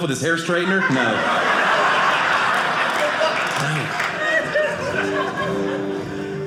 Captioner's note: audience laughing